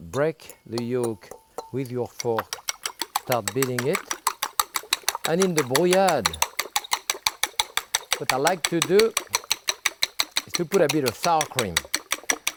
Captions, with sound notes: Break the yolk with your fork. (fork clinking) Start beating it. (fork clacking) And in the brouillade, (fork clacking) what I like to do is to put a bit of sour cream.